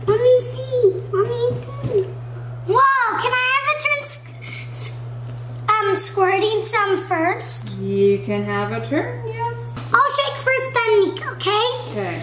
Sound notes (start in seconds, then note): none